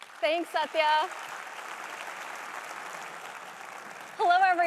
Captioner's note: applause